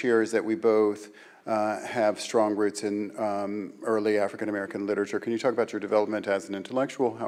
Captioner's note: none